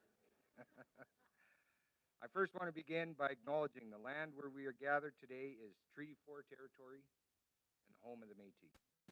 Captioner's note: laughs